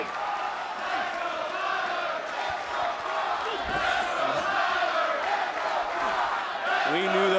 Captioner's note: crowd chants "Let's go Tyler/Let's go Bron"